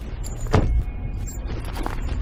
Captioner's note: car door closing